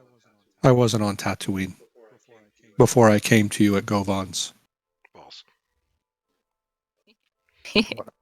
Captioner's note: quietly